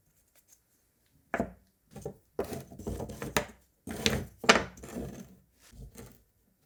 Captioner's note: wood clacking